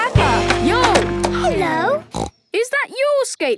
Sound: snorts

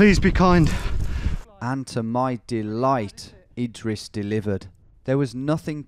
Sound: voiceover

